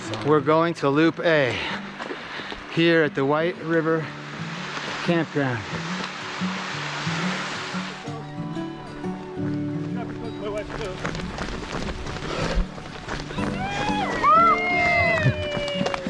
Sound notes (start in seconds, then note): 8.2 cheering; 13.5 cheering